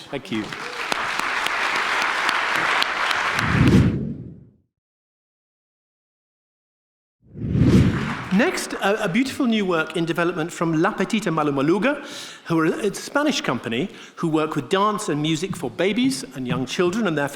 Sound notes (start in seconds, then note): 0.0 audience clapping; 3.5 air swooshing; 7.3 air swooshing